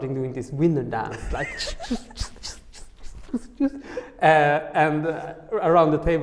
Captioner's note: laughing